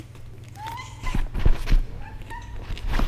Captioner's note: Inglie meows